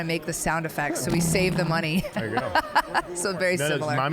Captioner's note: laughing